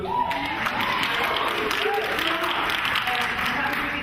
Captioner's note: audience claps and cheers